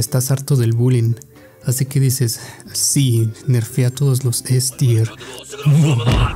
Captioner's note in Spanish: risa diabólica